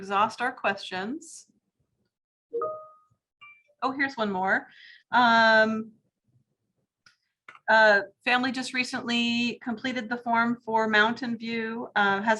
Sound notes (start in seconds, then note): 2.6 chimes